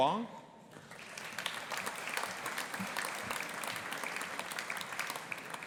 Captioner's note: audience applauding